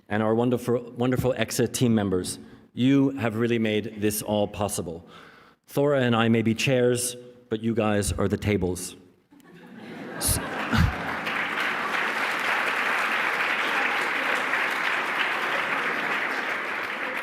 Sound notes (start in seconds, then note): 10.1 applause